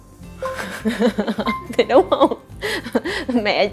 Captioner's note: laugh